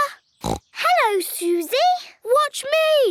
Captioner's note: snorts